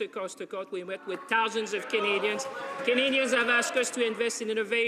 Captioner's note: some Applause